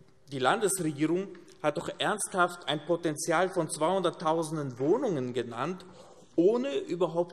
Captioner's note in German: none